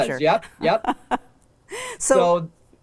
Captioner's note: laughs